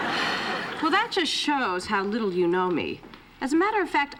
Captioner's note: laughter; sighs